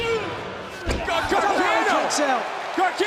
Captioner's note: crowd cheering